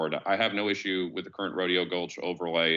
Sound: none

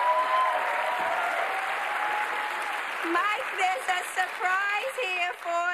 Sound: applause

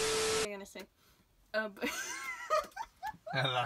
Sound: TV static; laughs

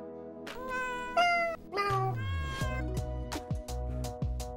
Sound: cats meow; upbeat music

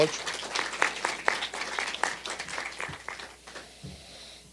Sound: applause

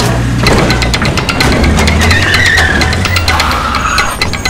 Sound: tires squealing

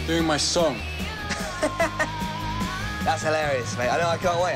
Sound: laughs

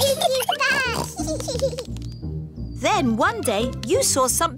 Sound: both giggling

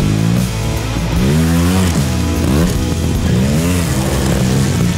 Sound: engine revving

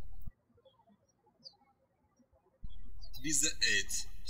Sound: birds chirping

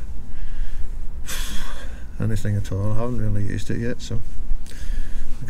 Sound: exhale

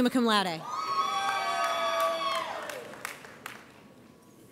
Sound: audience cheers

